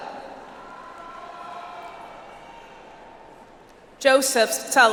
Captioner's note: audience applauds